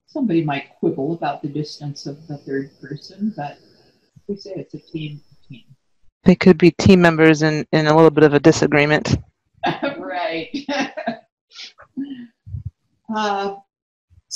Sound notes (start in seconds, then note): 10.5 laughs